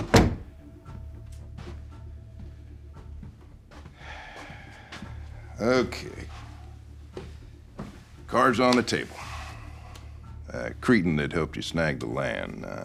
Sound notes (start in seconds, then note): 0.0 door thudding; 2.0 Waylon sighing; 3.0 footsteps plodding